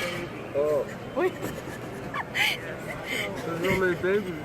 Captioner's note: laughing